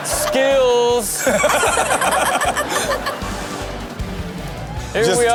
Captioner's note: Sterling and Karrueche laughing